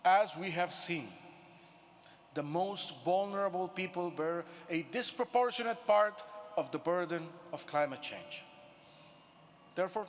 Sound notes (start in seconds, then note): none